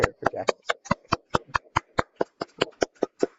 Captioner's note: clapping